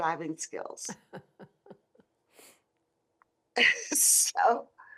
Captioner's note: laughs